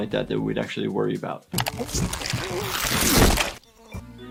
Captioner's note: Lumpy grunting